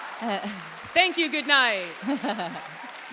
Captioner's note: Kat chuckling